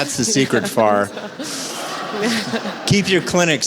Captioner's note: audience laughs